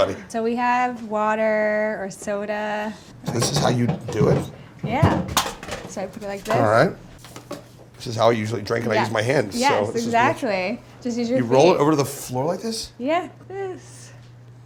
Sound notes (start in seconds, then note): 5.2 can rattles